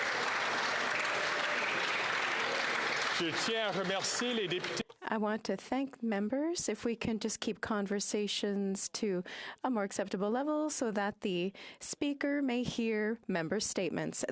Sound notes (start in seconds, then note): 3.9 applause